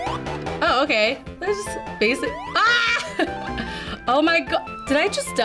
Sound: laughs

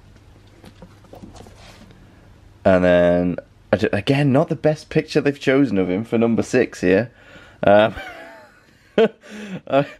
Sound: laughing

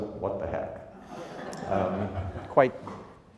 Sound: crowd laughs

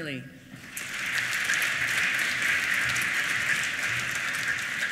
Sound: applause

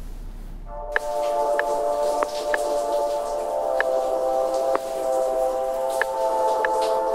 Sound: mellow music; water running

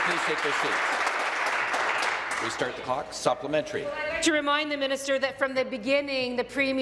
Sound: applause

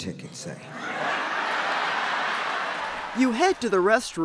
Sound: audience laughing

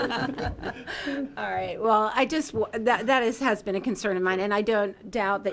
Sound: laughter

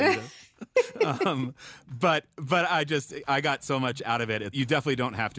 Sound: laughs

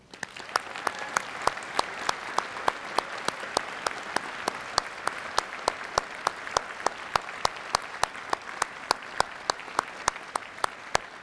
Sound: applause

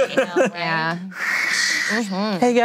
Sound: whistles

